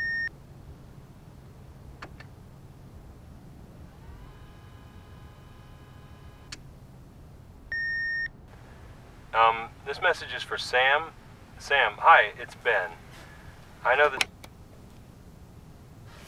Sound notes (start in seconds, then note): 0.1 click!; 3.8 rewind sound; 4.1 beep; 4.1 click; 14.1 click!